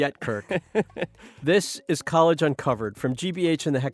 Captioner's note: laughing